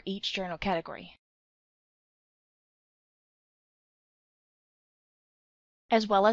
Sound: pause

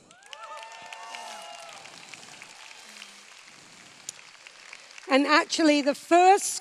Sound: cheers

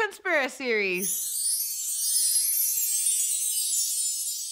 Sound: magical tinkling

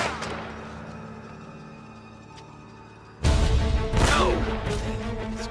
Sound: none

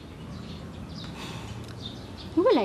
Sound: sighs

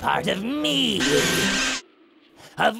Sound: muffled Vacuum sounds

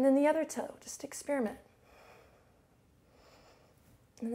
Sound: inhales, exhales

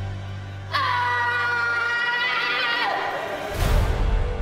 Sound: screaming

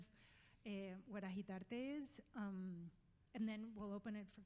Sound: speaking foreign language

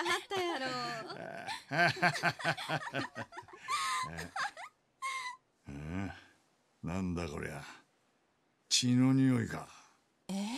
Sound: laughs

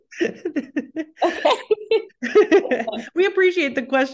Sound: laughs

